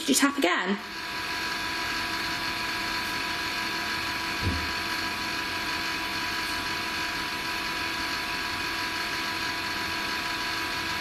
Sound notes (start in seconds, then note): 4.4 thud